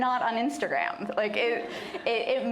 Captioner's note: laughter